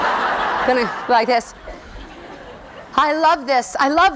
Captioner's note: laughing